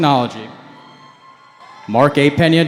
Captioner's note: cheering